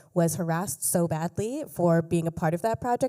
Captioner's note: none